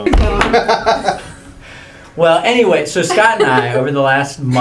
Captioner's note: laugh